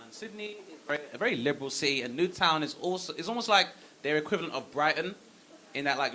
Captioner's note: none